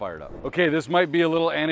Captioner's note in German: Übergang rauscht